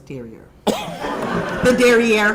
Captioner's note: audience laughing